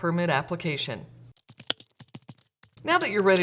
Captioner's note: sounds of typing on a keyboard